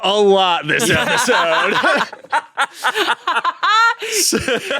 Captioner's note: everyone laughs